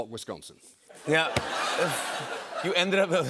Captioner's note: laughter